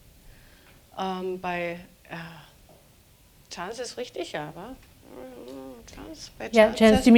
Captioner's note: speaking german